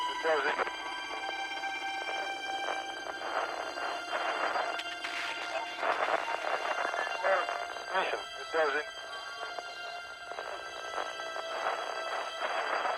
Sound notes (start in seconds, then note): 0.9 radio chatter